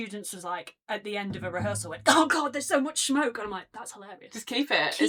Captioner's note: coughing